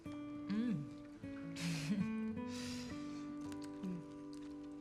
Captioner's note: chuckles